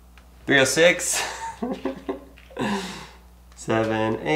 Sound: chuckling

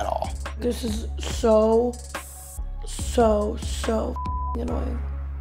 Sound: beep

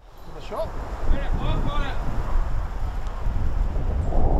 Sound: distant chatter

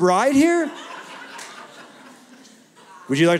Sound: laughter

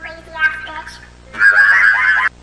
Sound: burst Of Laughter

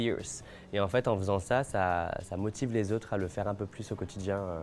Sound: speaking French

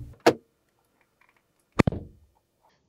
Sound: door Thud

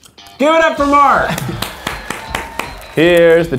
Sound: clapping

